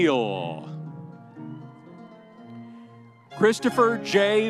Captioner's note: audience cheering